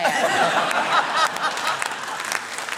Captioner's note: laughter